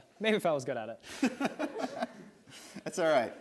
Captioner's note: chuckles